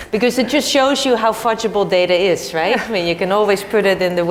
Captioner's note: laugh; laugh